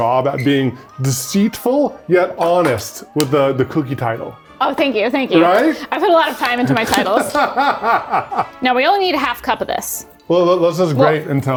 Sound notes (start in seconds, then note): 6.6 laughing